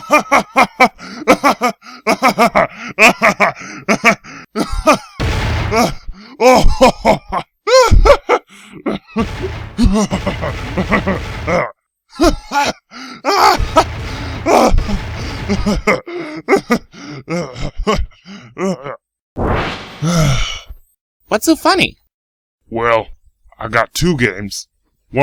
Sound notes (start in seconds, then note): 0.0 laughing hysterically; 5.2 loud thud; 6.2 continues to laugh hysterically; 20.0 deep breath, sighs